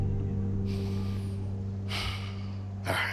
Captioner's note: exhales